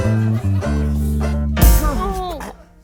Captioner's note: thunk